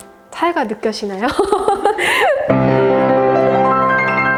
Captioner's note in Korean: ㅋㅋ